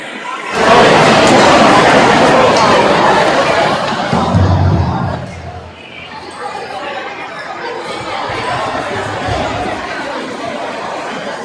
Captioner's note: crowd chattering